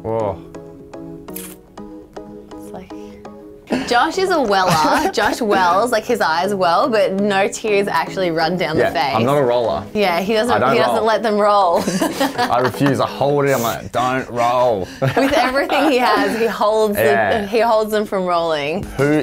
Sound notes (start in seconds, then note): 11.7 laughing; 14.4 laughing